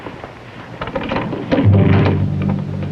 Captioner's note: door opening